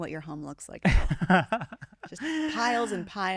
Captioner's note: laughing